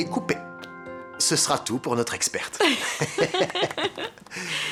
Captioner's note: laughs